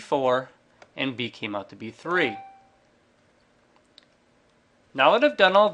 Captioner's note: computer chimes